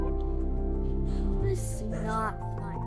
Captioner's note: speaking Mandarin